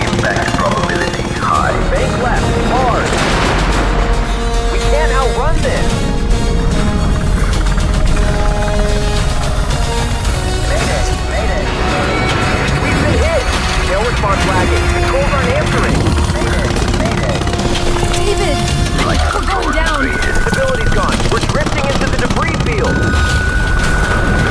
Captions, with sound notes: - Impact probability high - bank left hard. We can't outrun this. [rescue helicopter approaching] Made it made it. We've been hit no response lagging, controls aren't answering. Made it made it David we're going down. We're drifting into the debris field.